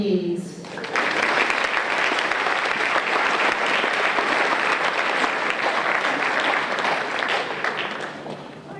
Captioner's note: applause